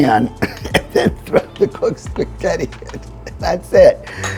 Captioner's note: laughing